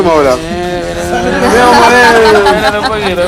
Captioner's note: laughs